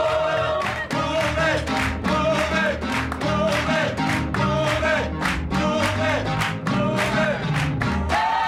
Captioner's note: lower voices; full choir